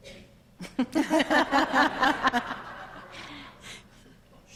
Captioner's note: all laughing